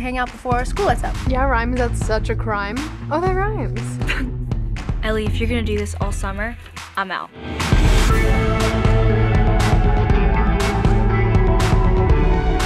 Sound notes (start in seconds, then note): 4.0 laughs